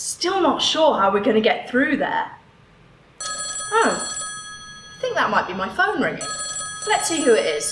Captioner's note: phone rings